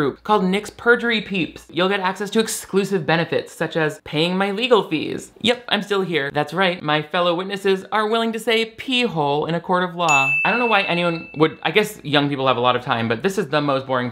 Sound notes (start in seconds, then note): 10.0 bell ringing